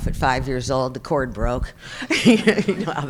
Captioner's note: chuckles